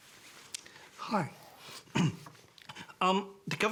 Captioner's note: clears throat